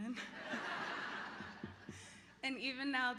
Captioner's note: laughter